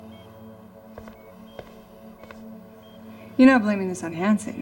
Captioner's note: machines beeping